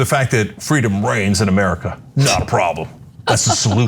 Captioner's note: laugh